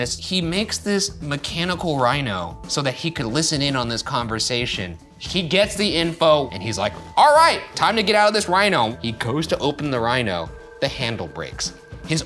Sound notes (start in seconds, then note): none